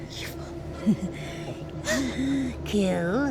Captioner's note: Glinda laughs